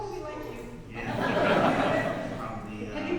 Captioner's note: audience laughs